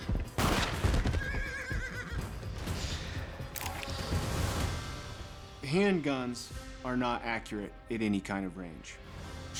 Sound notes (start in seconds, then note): 0.3 gunshot; 1.1 horse whinnies